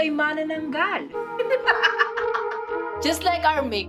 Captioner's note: cackles